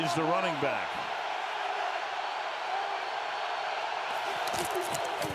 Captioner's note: cheering